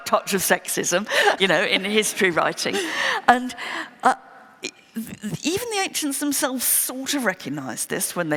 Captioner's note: laughter